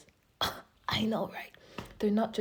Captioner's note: gasp